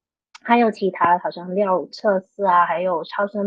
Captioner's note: speaking chinese